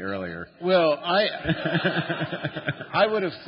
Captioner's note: laughter